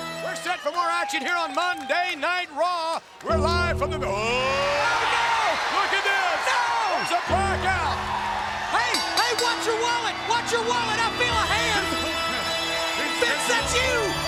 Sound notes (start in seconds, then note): 4.5 gong rings; 5.5 crowd cheers; 8.4 bell rings; 12.6 funeral music plays